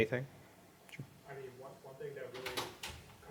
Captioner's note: voiceover